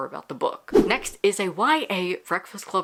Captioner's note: whoosh